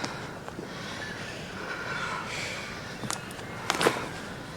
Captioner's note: Ura sighs